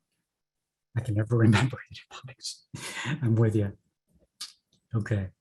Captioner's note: laughs